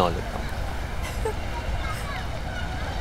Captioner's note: Giggling